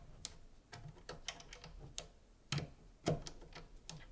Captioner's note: screwdriver clinking